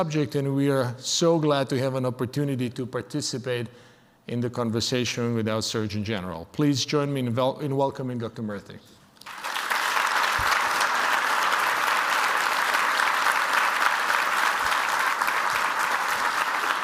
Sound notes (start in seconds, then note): 9.2 audience applause